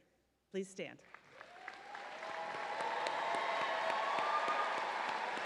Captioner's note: audience cheering